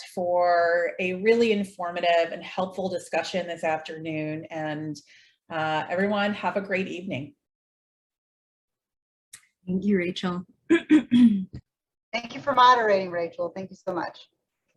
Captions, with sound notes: for a really informative and helpful discussion this afternoon and everyone have a great evening. - Thank you Rachael (clears throat) - Thank you for moderating Rachael. Thank you so much.